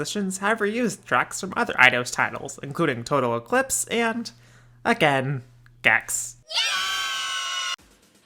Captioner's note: kids cheer